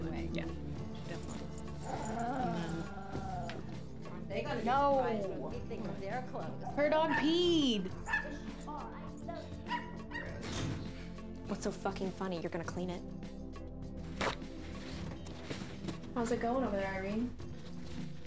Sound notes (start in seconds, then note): 8.0 dog barking